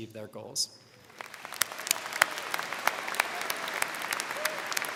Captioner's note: crowd clapping